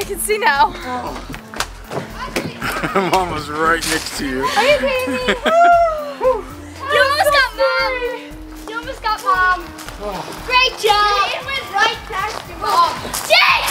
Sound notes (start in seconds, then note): 4.2 laughs; 4.5 laughter; 5.9 sigh of relief